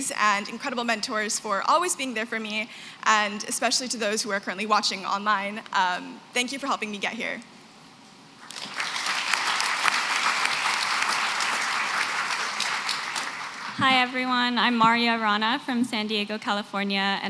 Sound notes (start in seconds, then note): 8.4 applause